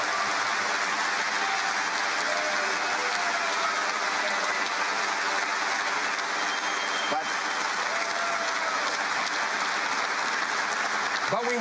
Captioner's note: cheering and Applause